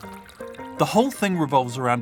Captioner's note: milk pouring